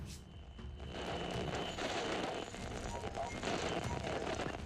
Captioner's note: gentle tense music; static crackling